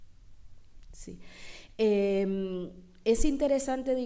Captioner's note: speaking spanish